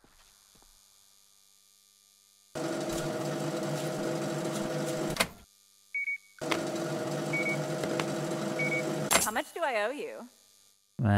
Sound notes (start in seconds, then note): 4.9 beeping